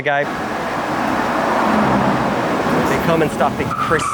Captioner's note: engine whooshing